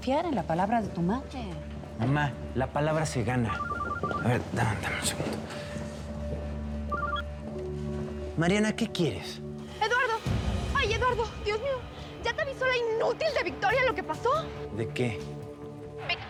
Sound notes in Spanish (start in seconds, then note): 3.5 Suena el celular